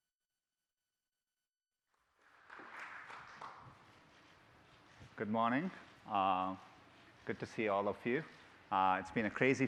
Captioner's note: applause